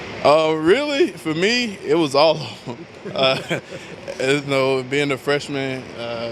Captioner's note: chuckles